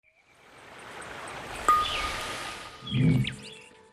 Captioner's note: water babbling